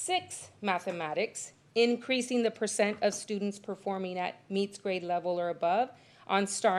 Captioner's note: none